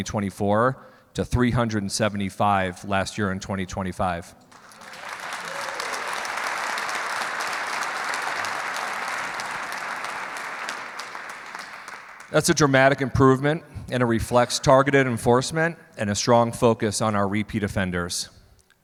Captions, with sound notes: in 2024 to 375 last year in 2025. (clapping) That's a dramatic improvement and it reflects targeted enforcement and a strong focus on our repeat offenders.